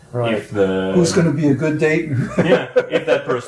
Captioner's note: laughs